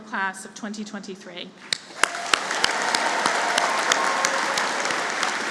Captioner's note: applause